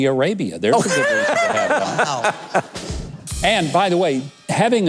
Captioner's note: bursts into laughter